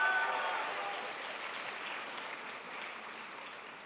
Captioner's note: crowd applauds